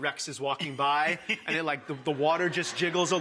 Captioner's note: laughing